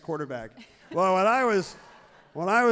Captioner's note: everyone laughs happily